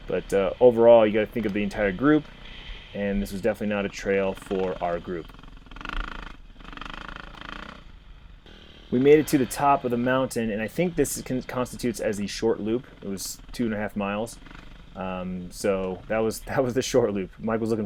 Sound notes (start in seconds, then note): 6.2 engine revving